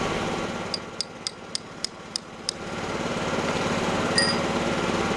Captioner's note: hammer tapping